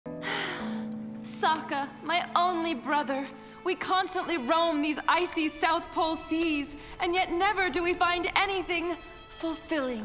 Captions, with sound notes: [sighing] Sokka, my only brother! We constantly roam these icy South Pole seas, and yet never do we find anything fulfilling!